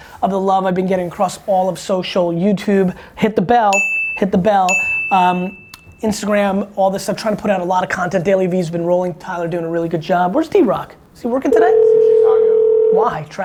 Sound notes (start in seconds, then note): 4.6 bell dings; 11.5 phone ringing